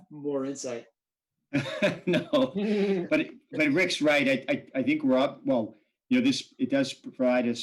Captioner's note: laughter